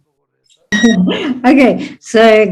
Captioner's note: laughs